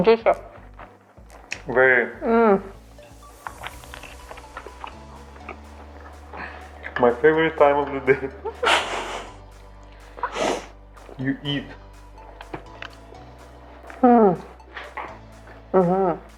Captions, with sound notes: Juicy. - Very. My favorite time of the day. (laughs) You eat.